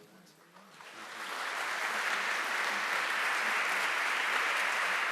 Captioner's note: applause